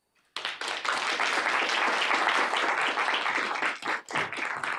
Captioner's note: applause